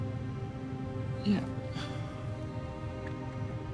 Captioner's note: sighs